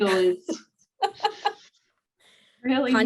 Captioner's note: laughing